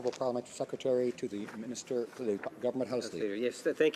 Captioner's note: speaking French